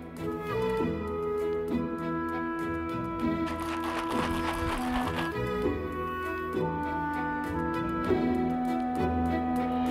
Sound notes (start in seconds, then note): 3.4 liquid swishing